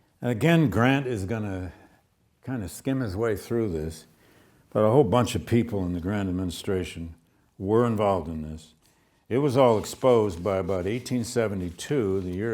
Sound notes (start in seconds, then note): none